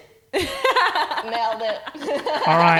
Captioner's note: laughing